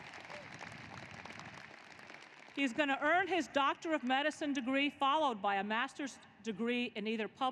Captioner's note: applause